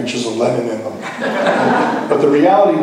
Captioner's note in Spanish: laughs